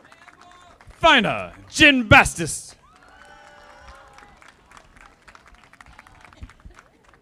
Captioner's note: audience applauding